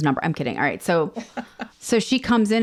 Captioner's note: laughs